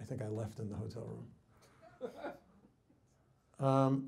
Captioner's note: man laughs